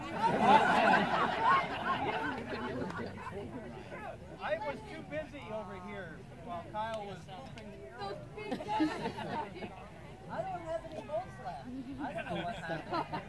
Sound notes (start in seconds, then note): 0.1 laughter; 8.4 laughter; 12.0 laughter